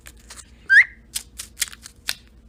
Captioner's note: whistles